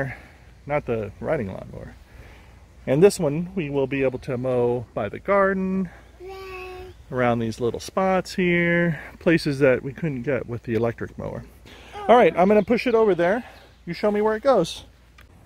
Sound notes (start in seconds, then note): none